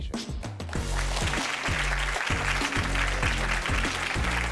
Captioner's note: audience claps